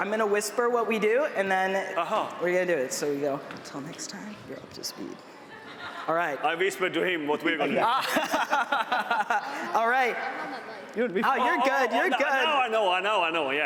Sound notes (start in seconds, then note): 11.6 chuckles